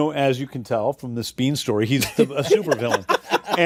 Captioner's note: laughter